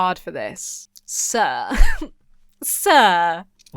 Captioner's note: titters